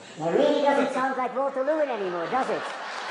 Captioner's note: applause